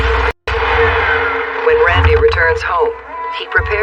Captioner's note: engine starts